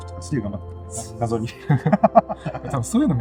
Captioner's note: laughs